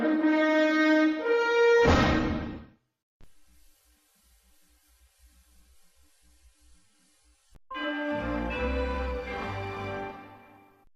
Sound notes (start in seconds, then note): 3.2 VHS static; 7.8 majestic chime plays